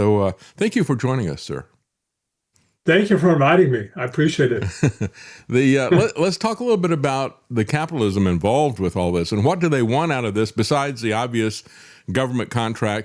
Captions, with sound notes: So thank you for joining us, sir. Thank you for inviting me, I appreciate it. (Laughing) Let's talk a little bit about the capitalism involved with all this, and what do they want out of this, besides the obvious government contract